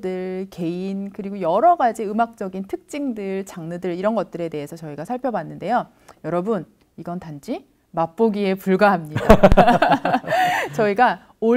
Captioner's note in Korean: 웃음